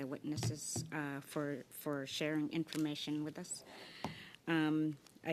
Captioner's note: speaking Alternate Language